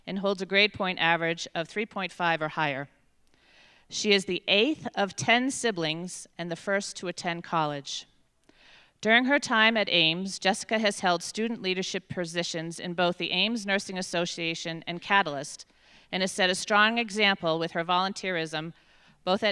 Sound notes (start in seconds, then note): none